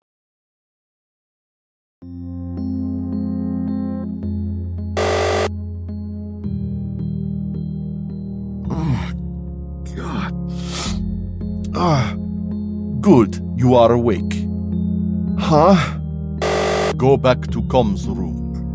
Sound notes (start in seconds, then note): 5.0 buzzer; 8.7 Eiffel groans; 16.4 buzzer